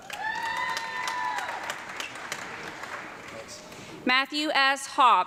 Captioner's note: audience clapping and cheering